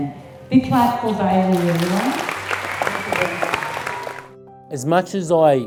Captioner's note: audience applauding